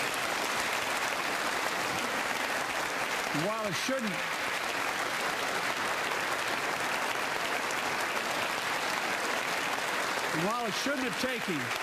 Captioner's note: applause